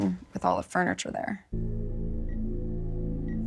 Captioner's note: ominous music; beeping